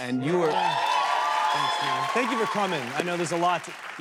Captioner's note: cheers and applause